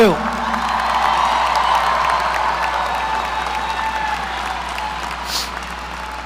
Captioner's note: audience applauding; audience cheering